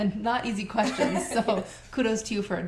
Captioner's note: laughter